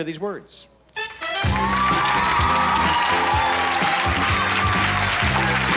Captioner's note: lively pop music; applause